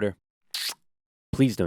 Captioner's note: kiss